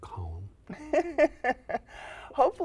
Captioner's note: laughter